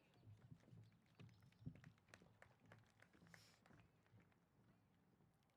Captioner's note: applause